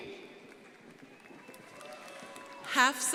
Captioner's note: crowd applauding